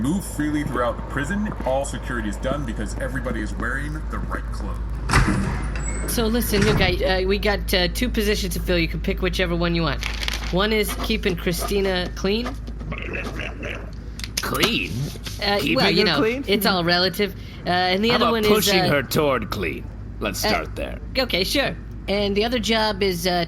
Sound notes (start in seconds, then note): 10.8 paper sound, writing something down; 12.8 gurgles and growls